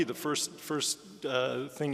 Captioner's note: none